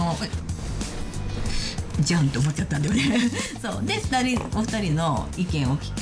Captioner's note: woman speaking in Japanese